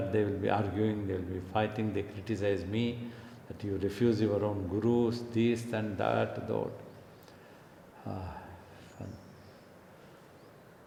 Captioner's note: gives out a sigh